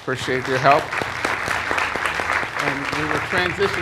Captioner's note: applause